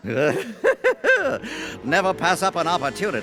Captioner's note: laughing